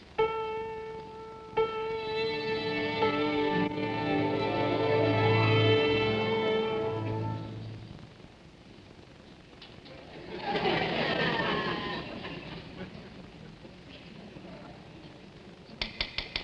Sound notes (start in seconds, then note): 0.0 piano concerto playing; 3.7 upbeat music; 10.0 audience laughing